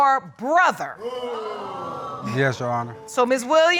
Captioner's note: audience exclaiming